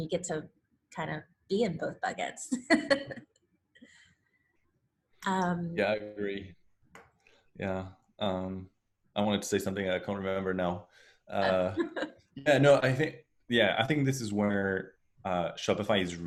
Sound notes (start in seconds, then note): 2.8 laughs